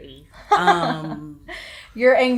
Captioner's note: laughs